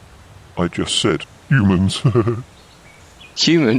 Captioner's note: laughs